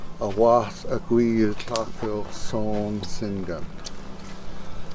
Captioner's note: in Haida language